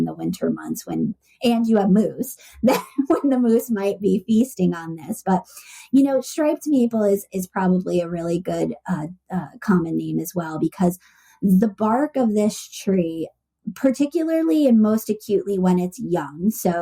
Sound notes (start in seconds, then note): 2.6 laughs